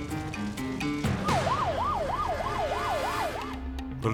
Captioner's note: siren wailing